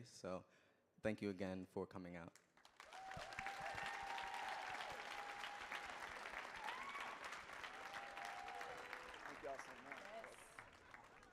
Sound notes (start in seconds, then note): 2.4 audience clapping; 2.8 audience cheering